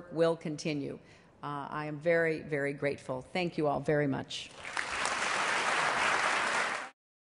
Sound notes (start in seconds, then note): 4.5 applause